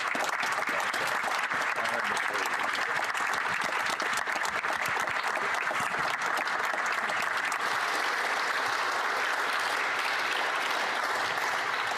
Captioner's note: applause